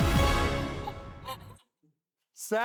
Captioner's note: upbeat music; laughing